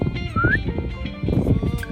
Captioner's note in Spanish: Silbido